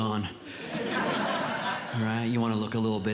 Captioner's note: audience Laughing